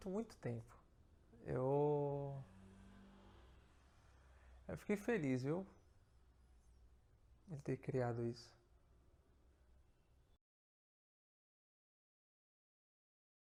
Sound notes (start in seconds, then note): 1.5 reflective pause